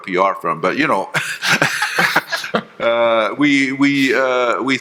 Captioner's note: panelists laughing